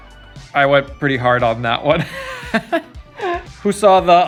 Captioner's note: laughs